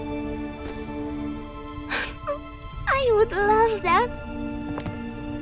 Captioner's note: sniffling